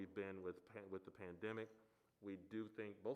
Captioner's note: none